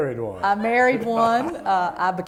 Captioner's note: laughter